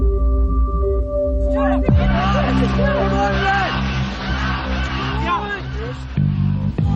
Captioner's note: indistinct cheering